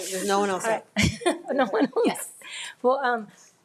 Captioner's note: laughs